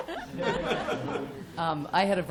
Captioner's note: laughter